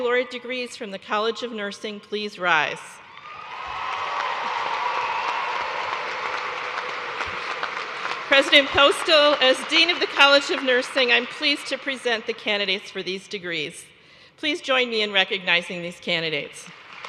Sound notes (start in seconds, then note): 5.0 cheers and applause